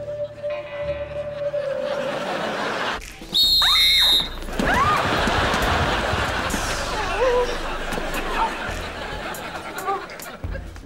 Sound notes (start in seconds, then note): 3.3 blowing whistle; 3.5 screaming